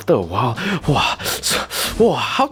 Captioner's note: heavy breathing